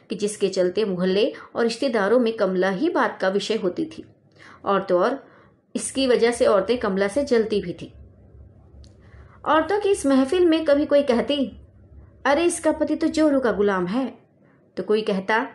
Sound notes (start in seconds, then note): 7.8 Silent